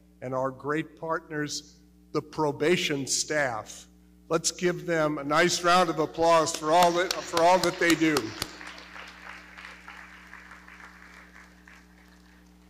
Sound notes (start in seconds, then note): 6.5 claps; 8.0 audience clapping